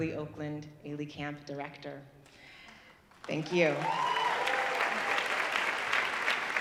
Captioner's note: audience applauding